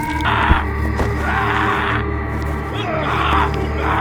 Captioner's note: yelling